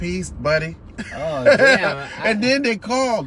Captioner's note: laughing